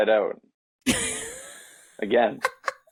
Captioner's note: laughing